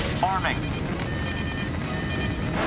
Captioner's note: alarm